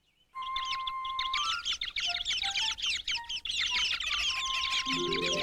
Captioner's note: chirping